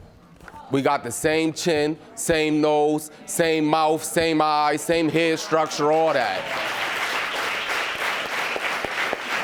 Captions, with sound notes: We got the same chin, same nose, same mouth, same eyes, same hair structure, all that. (AUDIENCE APPLAUDING)